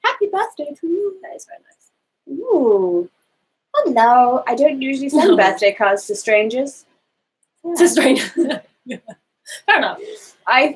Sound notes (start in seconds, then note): 8.8 laughing